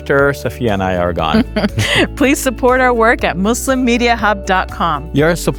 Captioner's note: chuckles